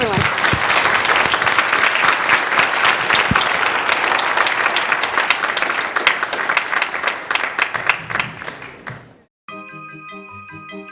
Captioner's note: applause